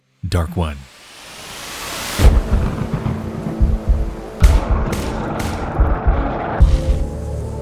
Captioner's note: eerie music; thunder rumbling